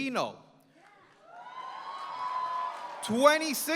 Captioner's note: applause